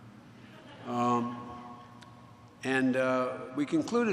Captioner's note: laughter